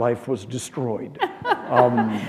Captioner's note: chuckle